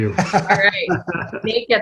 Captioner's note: laughs